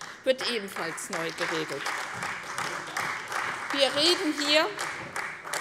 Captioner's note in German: Beifall bei der CDU und dem BÜNDNIS 90/DIE GRÜNEN